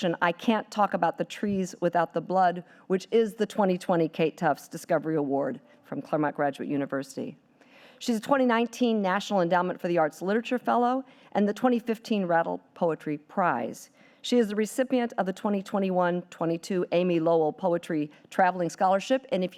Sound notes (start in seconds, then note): none